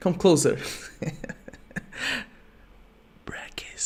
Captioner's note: giggles